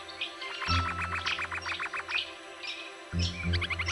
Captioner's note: bird calls and music